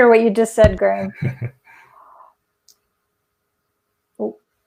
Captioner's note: chuckles